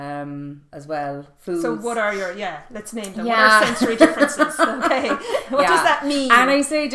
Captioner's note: laughing